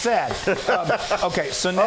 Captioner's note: laughing